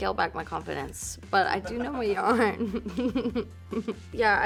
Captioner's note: laughing